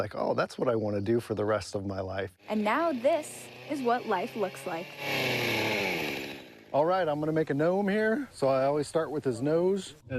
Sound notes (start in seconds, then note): 5.0 chainsaw buzzing